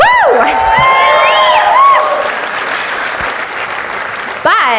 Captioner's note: audience cheers